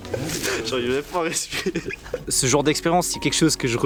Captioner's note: laughs